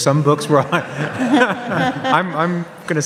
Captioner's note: audience laughs